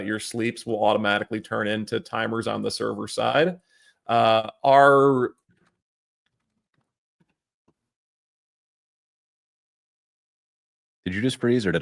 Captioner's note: no audio